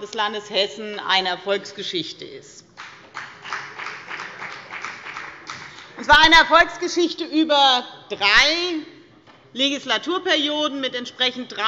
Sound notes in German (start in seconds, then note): 2.8 Beifall bei der FDP